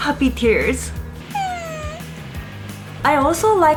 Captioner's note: cry